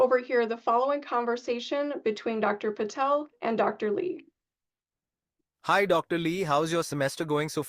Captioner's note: AI voice of Dr. Patel